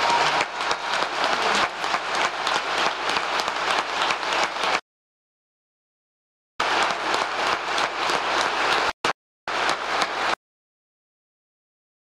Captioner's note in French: applause